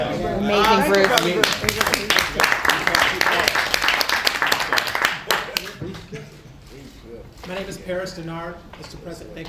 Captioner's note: applause